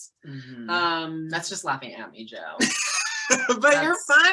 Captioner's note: Joe laughing